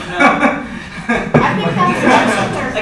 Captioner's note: laughter